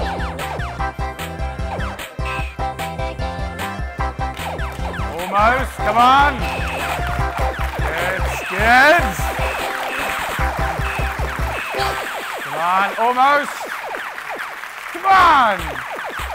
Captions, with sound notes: Almost, come on. (cheering) Good, good. (applauding) Come on, almost. Come on.